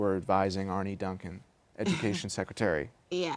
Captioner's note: laughter